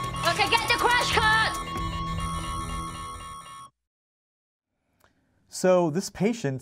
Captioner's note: loud beeping